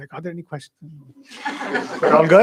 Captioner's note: laughter